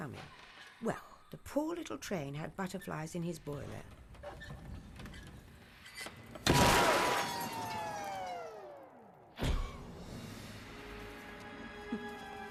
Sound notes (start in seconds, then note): 6.6 steam whistles